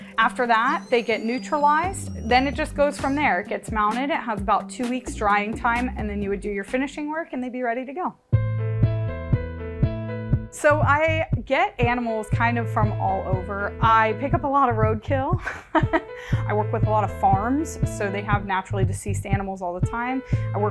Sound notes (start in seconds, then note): 8.3 lively music; 15.4 chuckling